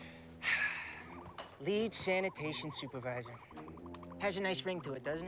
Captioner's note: sighing